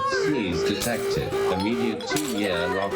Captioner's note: alarm blares